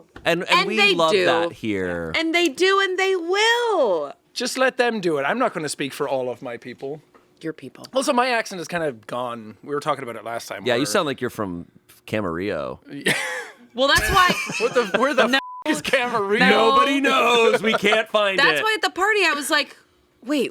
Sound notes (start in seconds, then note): 15.3 beep